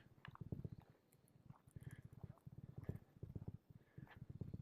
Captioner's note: gravel crunching